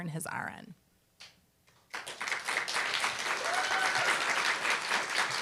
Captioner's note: applause, cheer